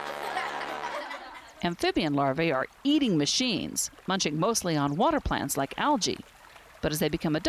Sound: laughter

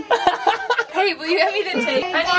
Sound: laughs

